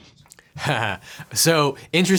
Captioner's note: chuckles